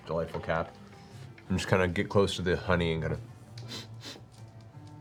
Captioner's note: sniff